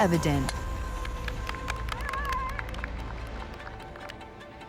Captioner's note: crowd cheers